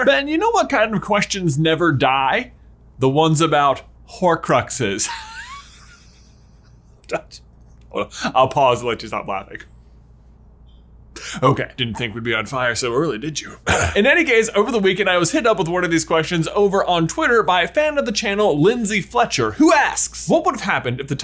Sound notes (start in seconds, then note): 5.0 laughing